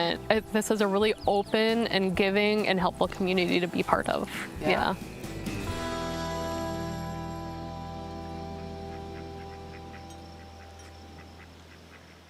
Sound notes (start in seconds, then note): 8.6 ducks quacking